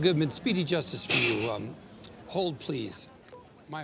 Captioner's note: chuckles